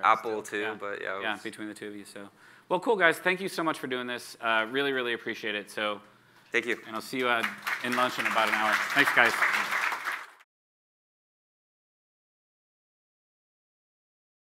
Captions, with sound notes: - Apple too, but, yeah. - Right, between the two of you, so. Well cool guys, thank you so much for doing this. Really really appreciate it, so. - Thank you. - And I'll see you in lunch in about an hour. Thanks guys. (audience claps)